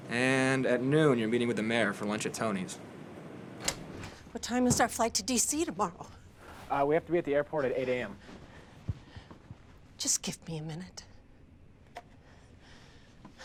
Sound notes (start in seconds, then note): 3.6 door rattling